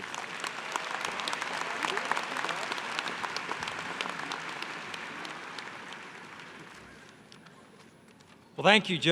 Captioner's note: applause